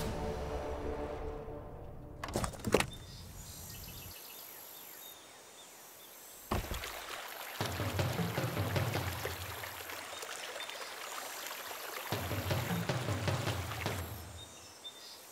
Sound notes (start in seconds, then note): 5.3 birds call